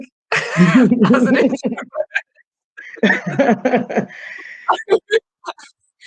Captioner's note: laughing